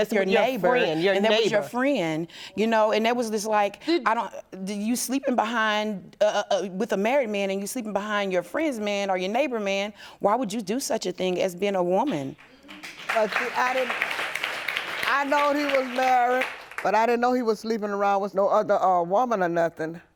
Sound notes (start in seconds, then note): 12.4 audience applauding